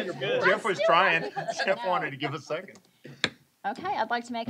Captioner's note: laughter